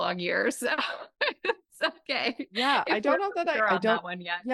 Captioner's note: laughs